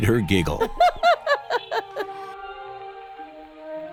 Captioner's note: laughing